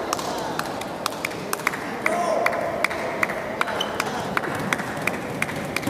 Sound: applause

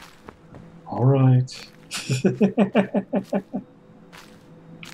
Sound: chuckles

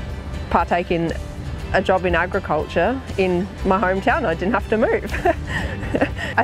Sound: laughs

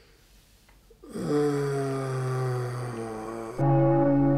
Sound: long groan; deep church bell

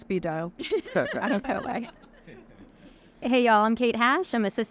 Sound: everyone laughing

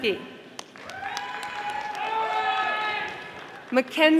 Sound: audience applauding

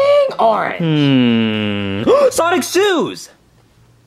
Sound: gasps

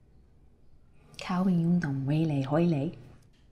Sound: speaks cantonese

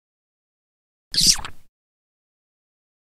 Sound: sound of kiss

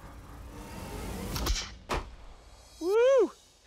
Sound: gunshot

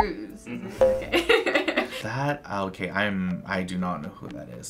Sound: laughs

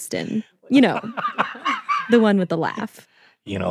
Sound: laugh plays; laughingly

